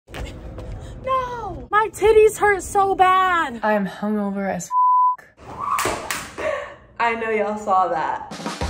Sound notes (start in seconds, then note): 4.7 beep